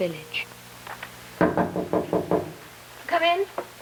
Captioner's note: knocking on the door